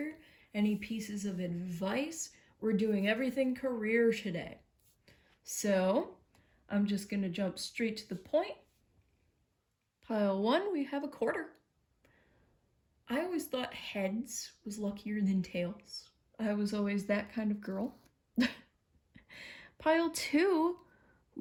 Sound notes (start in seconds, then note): 18.4 chuckles